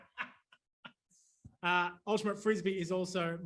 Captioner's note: audience laughter